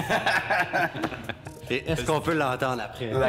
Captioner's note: laughing